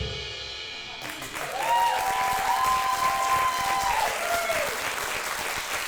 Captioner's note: audience applauds and cheers